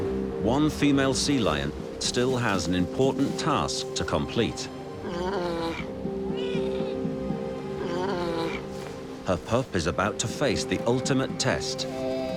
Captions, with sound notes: One female sea lion still has an important task to complete. (sea lions grunting) Her pup is about to face the ultimate test,